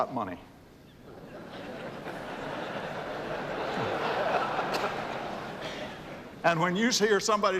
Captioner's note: laughter